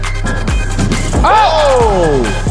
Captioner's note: dunk sound; cheers